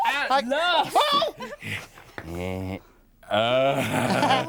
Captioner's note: exclaims